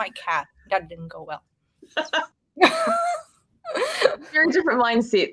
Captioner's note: woman laughing